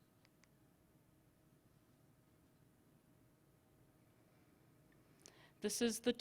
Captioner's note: silence